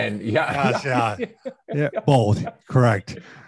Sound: laughs

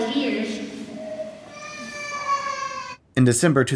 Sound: baby crying

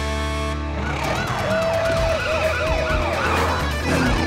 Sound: honking; siren wailing

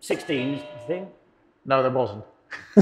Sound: buzzer rings

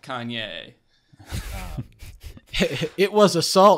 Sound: laughs

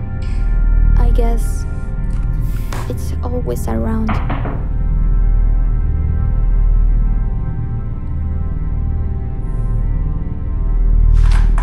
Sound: door knock

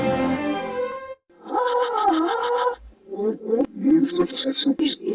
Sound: orchestral music plays backwards; PC voices palavering backwards

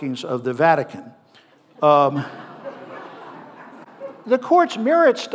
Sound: audience laughing

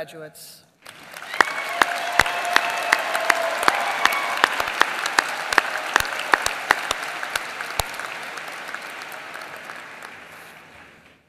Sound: applause

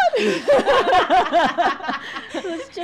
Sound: all laugh

